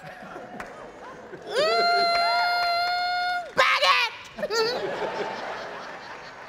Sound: audience laughing

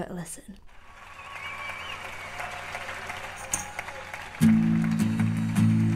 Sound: audience applauding

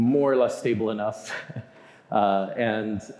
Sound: chuckling

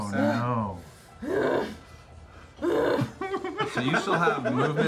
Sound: grunting

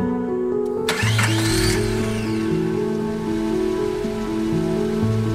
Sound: vehicle rumbling to life; vehicle idling

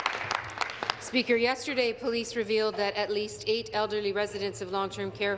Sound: applause

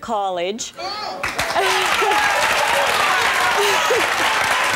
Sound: audience clapping

